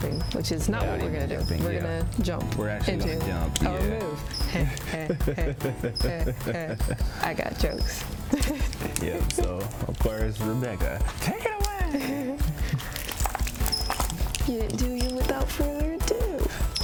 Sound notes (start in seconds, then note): 4.5 both laugh; 8.2 laughs; 11.8 giggles